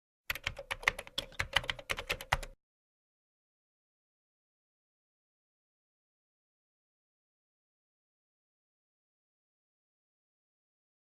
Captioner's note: keyboard typing